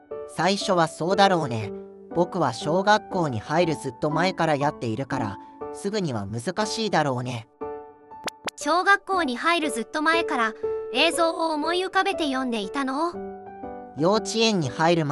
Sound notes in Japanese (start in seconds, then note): 8.2 瞬きの音